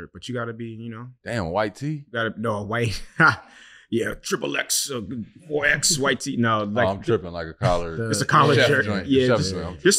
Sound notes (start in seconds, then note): 3.3 chuckles